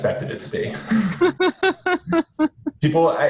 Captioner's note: laughing